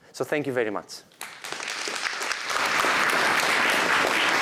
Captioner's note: applause